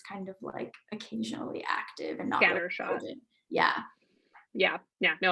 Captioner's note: murmurs